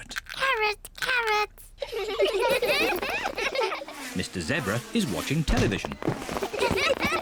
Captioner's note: all giggle